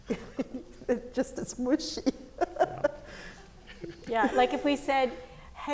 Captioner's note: laughs